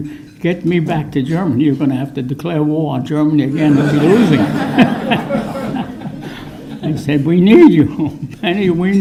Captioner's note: laughter